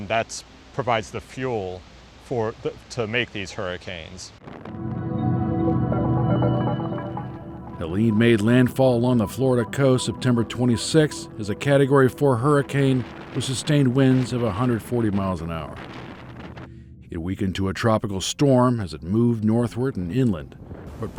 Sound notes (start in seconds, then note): 4.5 bright music; 4.5 wind gusts; 16.0 winds gusting